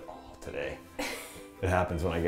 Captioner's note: laughs